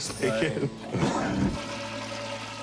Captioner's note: toilet flushing